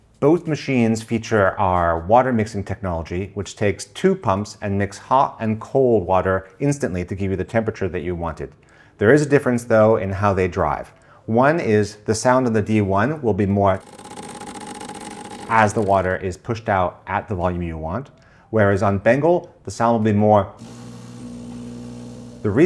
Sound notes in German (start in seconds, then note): 13.7 Geräusch der DE1-Pumpe; 20.6 Geräusch der Pumpe der Bengle